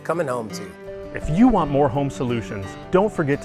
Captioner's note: voiceover